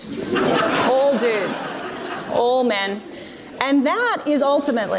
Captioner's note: audience laughs